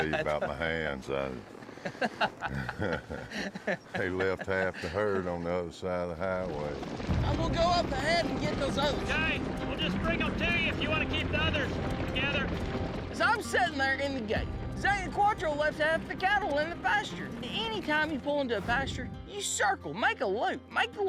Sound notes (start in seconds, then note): 1.7 laughing